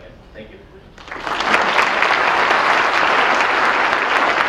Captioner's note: audience applause